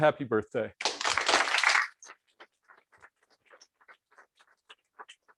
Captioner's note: applause